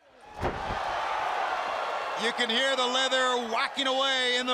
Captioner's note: crowd cheering